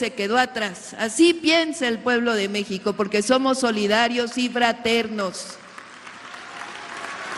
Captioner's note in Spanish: aplausos